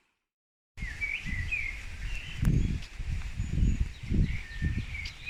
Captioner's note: birdsong